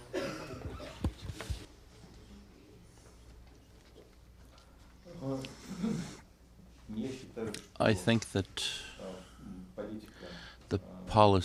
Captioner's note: through translator